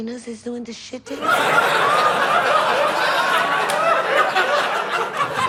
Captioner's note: audience laughs